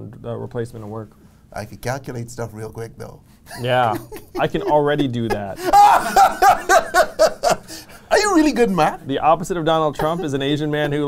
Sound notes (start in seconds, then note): 6.6 laughs